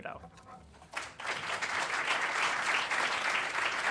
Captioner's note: applause